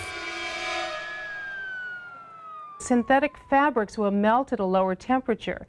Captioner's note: siren wailing